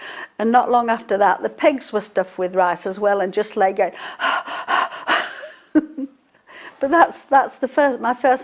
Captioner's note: panting